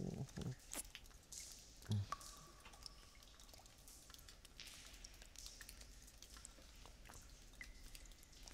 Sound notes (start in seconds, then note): 2.9 cave water dripping